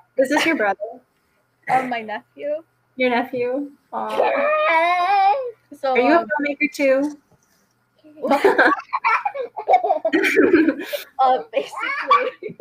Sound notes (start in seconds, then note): 8.2 laughing